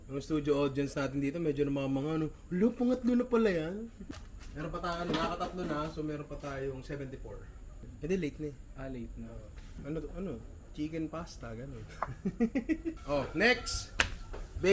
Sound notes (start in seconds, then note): 12.0 laughs